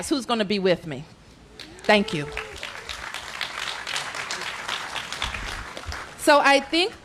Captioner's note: applause